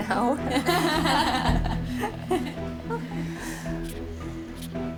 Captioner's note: all laughing; tense music